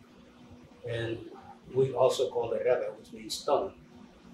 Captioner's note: non-english speech